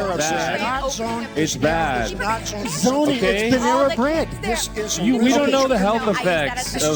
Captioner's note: chaotic Arguing